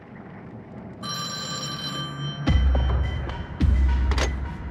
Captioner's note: telephone ringing